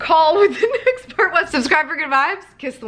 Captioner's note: laughing